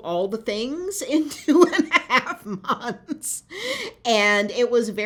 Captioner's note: laughter